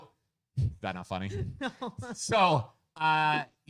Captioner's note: laughing